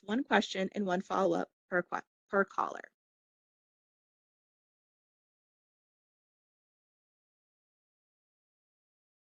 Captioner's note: silence